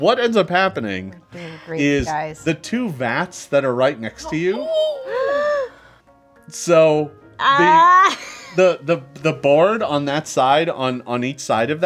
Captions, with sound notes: - What ends up happening, - We're doing great guys. - Is the two vats that are right next to you-- (group gasps) so the board on that side on each side of that